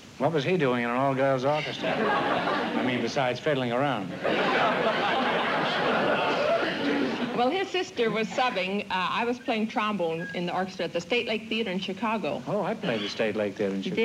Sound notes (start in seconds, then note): 4.1 laughter